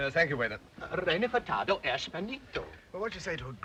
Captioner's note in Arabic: رودولف يتحدث لغة أجنبية